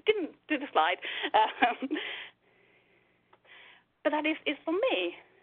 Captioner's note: laughs